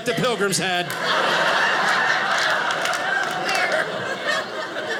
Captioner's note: audience laughing